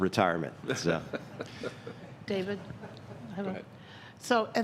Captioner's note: laughter